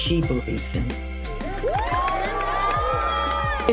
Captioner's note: cheering, applause